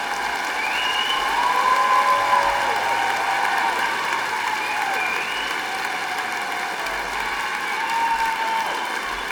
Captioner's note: applause